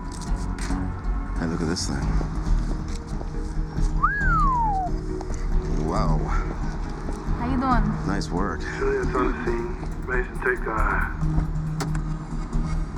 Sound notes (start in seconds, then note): 4.0 wolf whistles